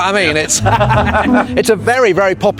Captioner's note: both laugh